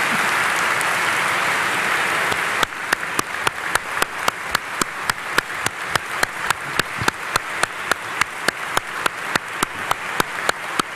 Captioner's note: applause